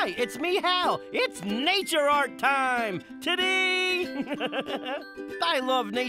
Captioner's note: gentle orchestral music; chuckling